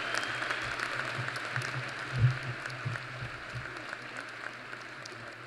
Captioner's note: applause